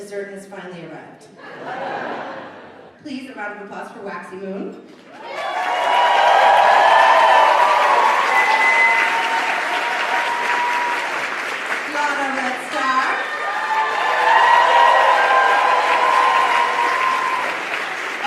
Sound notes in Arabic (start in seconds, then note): 1.4 الجمهور يضحك; 5.6 هتاف الجمهور; 15.1 هتاف الجمهور